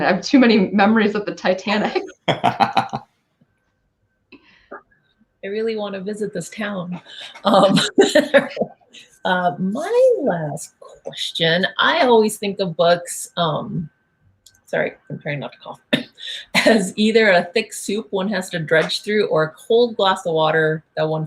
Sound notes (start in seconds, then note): 1.8 laughing; 6.9 laughing